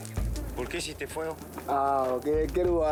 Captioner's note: Portuguese spoken audio